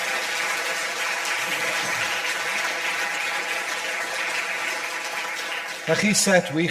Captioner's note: audience applause